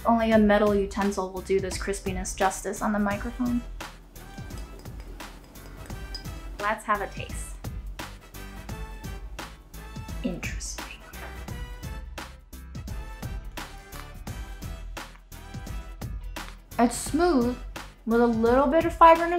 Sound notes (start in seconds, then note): 4.3 clinking noise; 13.6 mamey crunches